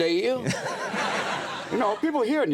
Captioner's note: audience laughs